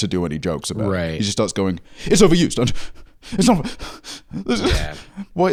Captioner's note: panting tearfully